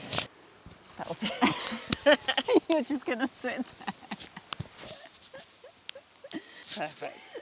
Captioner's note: giggles